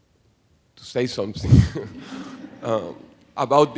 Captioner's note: laughing